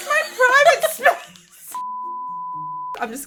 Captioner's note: laughing